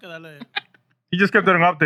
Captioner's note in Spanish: Hablando en idioma extranjero